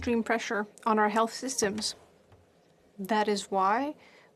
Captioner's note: speaking French